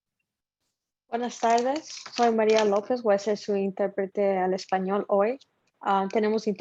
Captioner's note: speaking foreign language